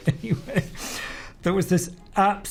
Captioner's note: laughs